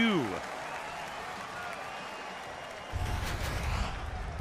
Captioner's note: cheering, applause